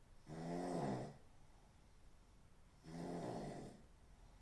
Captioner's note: Phil snoring